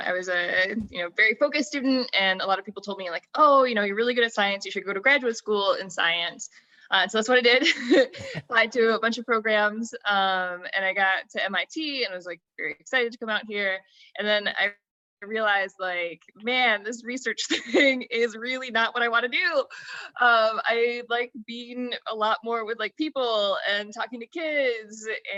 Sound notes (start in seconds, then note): 8.0 laughs